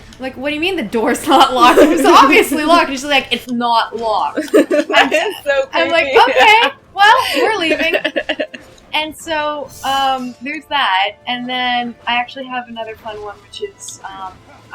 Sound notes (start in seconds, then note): 4.4 laughing